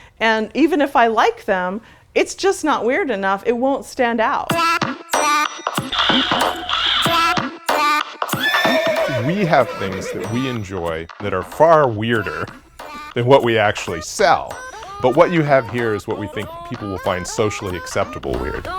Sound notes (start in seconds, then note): 4.8 playful music; 8.3 horse neigh